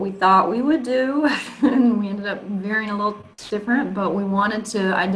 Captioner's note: chuckles